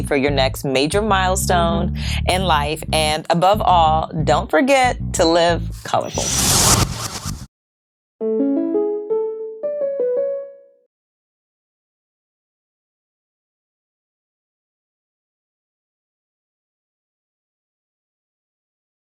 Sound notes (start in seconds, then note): 5.8 air whooshing; 8.2 gentle music